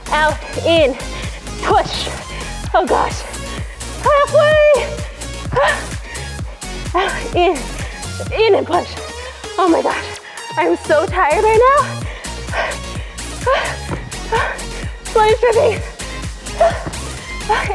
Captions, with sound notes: Out, in, push! Oh gosh. Half way! Out, in. In and push! Oh my gosh. I'm so tired right now. (heavy breathing) Sweat is dripping!